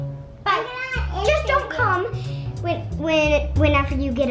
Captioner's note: murmuring